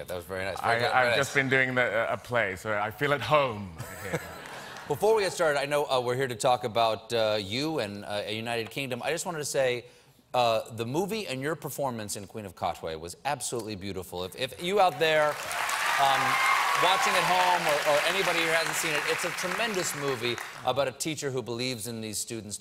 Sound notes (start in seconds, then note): 3.8 laughter